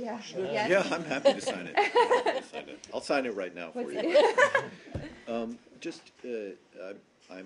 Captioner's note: laughter; laughter